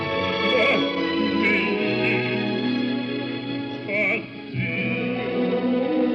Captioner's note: crying